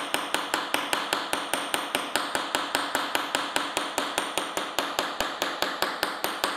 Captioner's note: none